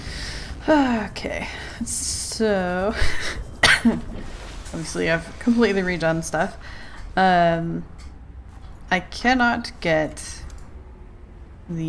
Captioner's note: laughs